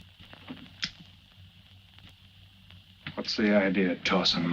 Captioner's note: gun clicks